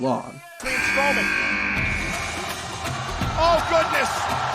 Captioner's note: buzzer buzzing